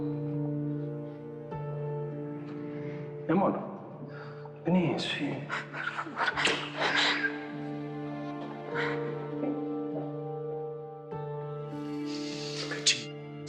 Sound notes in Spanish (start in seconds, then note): 6.8 Sollozos